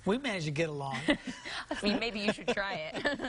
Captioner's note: chuckling